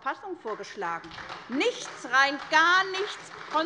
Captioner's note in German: Beifall bei Abgeordneten